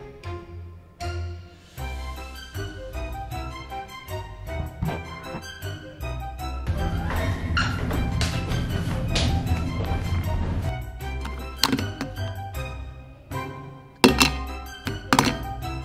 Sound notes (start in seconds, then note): 6.7 footsteps; 11.5 clinking